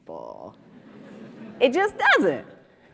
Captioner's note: audience murmurs